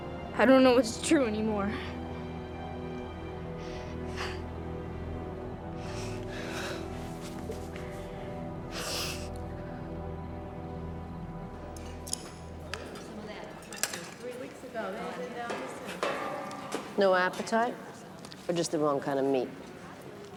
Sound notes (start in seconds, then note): 8.7 sniffles